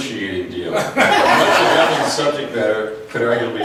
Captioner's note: laughs